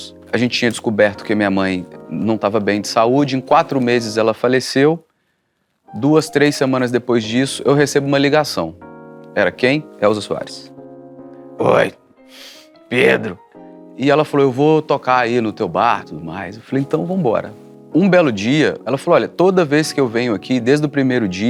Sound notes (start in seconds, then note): 11.2 raspy voice